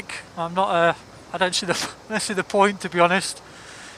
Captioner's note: laughs